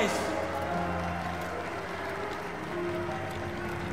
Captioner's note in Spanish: Vítores, aplausos